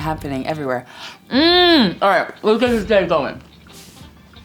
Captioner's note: hums